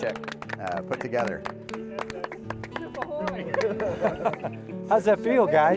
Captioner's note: applause